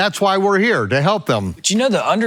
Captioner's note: laughs